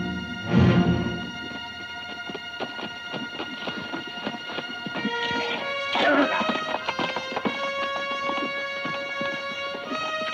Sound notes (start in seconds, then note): 5.8 Delgadito speaking foreign language; 7.4 dramatic music